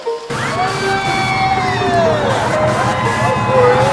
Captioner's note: construction noise; screaming; laughter and cheers